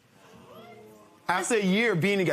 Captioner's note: spectators murmuring